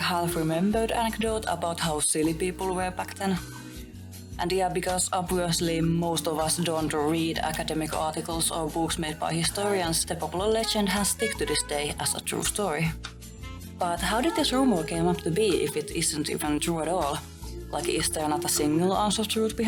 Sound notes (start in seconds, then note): none